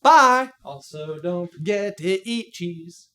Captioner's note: sing-song